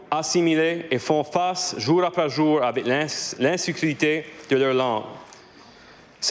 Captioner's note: speaking French